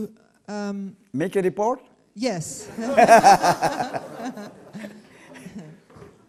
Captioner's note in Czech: smích